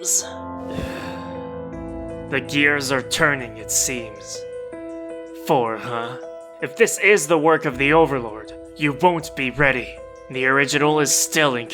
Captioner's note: exhale